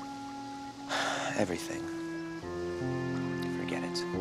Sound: sighs

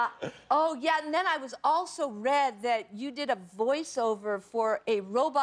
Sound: laughter

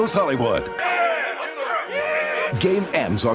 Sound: cheering

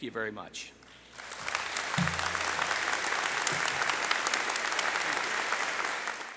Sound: applause

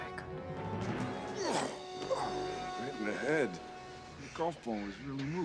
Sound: groaning

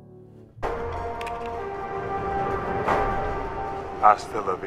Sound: movie audio playing

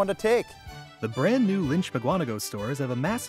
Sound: voiceover

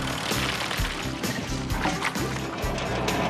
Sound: upbeat Music; concrete Sploshes; clattering

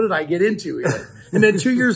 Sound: chuckle

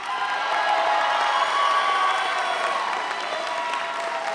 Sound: audience cheering

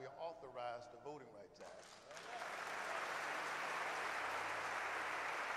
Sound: applause

